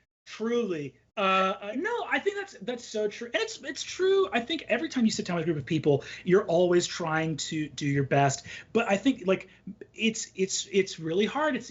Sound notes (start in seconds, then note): none